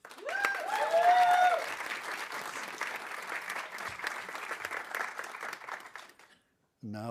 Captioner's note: audience cheering; audience applauding